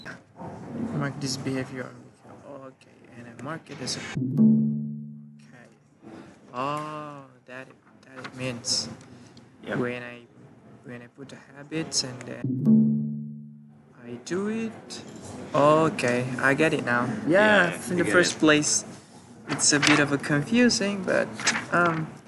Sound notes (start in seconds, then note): 4.1 notification sound; 12.4 notification sound